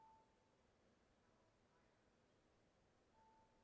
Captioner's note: none